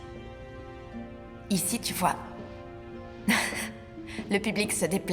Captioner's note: laughs